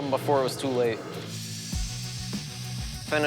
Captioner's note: whirring